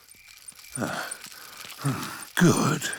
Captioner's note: panting